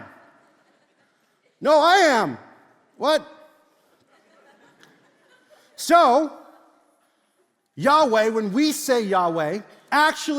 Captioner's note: congregation laughs